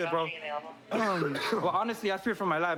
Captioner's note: coughs